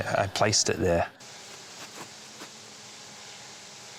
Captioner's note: drone buzzes distantly